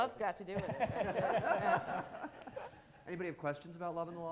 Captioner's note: all laughing